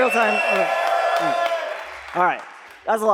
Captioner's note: cheering